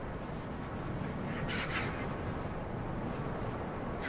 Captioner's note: birds squawking